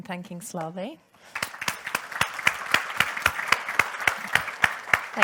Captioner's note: audience applauds